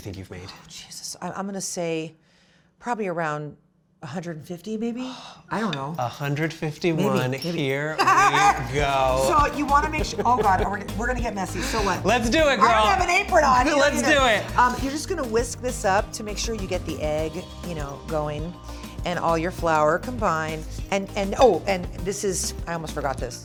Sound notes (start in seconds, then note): 4.8 sighs